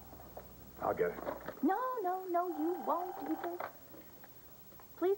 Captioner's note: telephone rings